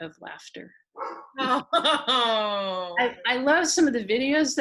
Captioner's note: laughing